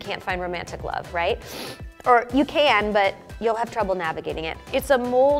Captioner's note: sniffs